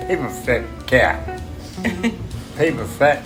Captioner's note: laughter